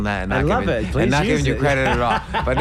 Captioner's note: laughs